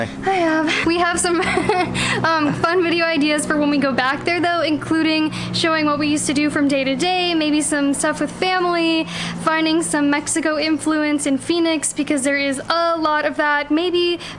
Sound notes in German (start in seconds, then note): 0.6 lacht